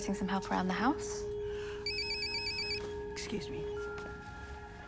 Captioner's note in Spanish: teléfono sonando